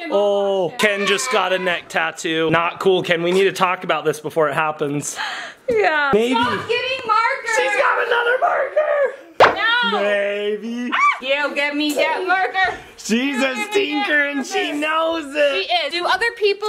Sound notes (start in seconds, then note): 8.9 child laughing; 11.4 person screams; 13.1 child laughs